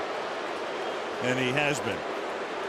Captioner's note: booing